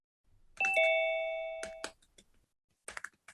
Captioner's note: bell dings